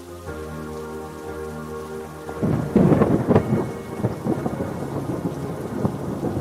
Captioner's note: thunder cracks